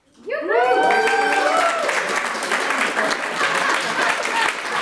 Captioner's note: audience applauds